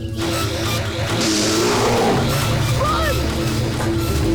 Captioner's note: roaring